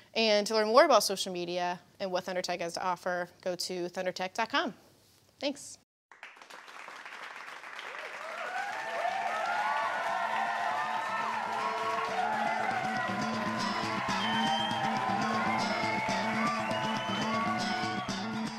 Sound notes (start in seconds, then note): 6.1 applause